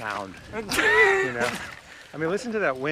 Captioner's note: Mike laughs